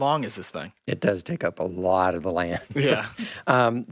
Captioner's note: laughs